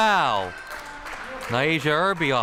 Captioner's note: crowd cheering